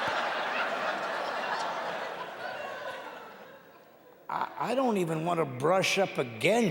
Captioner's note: audience clapping and laughing; clapping and laughing continues